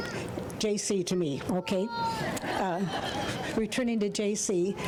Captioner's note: crowd laughing